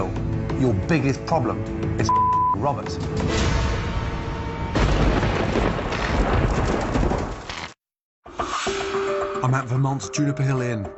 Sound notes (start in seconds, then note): 3.4 thunder rumbles; 4.8 electricity crackling